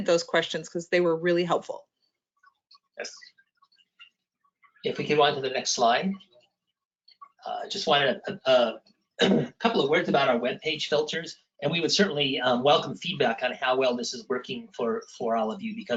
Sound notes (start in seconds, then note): 9.2 clears throat